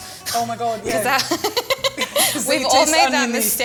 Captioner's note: laughs